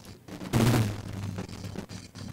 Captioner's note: ppffrrrt